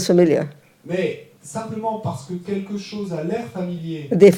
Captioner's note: French